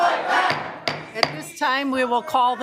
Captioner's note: gavel banging